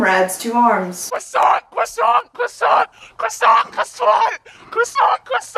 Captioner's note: screaming 'croissant'